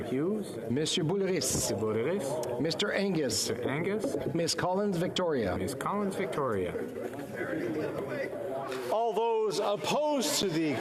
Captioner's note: calling of recorded vote